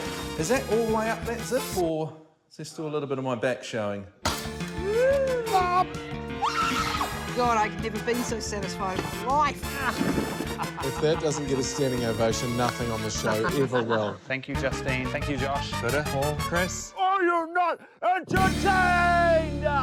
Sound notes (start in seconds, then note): 5.4 grunts; 6.4 screams